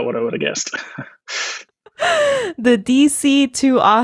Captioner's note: laughing